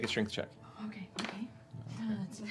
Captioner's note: quietly